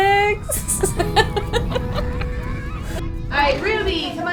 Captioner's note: laughing